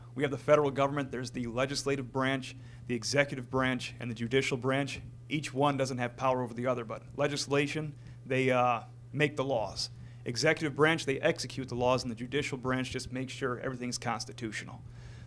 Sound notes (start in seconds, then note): none